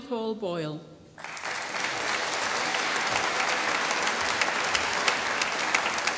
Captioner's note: applause